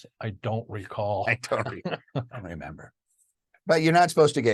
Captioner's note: both laughing